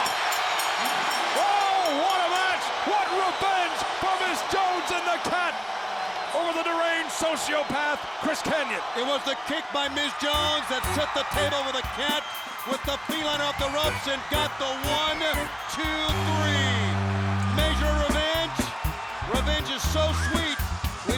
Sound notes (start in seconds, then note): 3.4 bell ringing; 4.4 crowd cheering